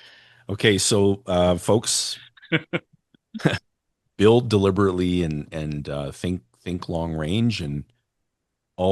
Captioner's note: laughter